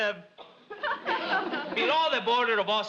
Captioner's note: audience laughs